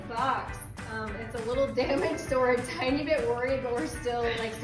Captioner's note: laughs